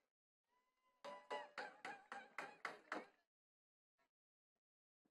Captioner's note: attendees clapping